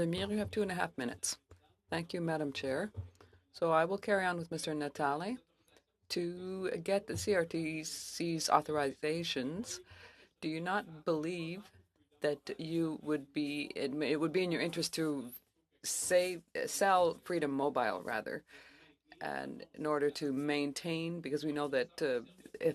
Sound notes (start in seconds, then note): 11.6 speaking French